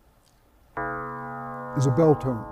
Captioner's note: bell tone